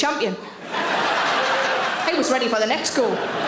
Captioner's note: audience laughing